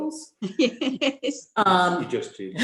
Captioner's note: laughter